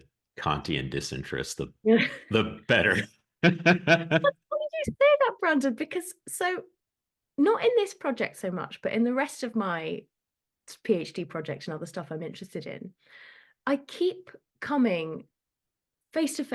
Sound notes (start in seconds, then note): 3.4 both laugh